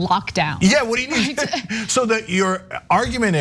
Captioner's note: laugh